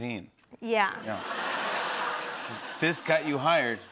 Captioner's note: laughter